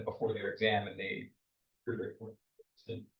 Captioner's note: speaks faintly